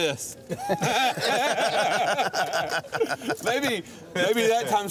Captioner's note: crowd laughing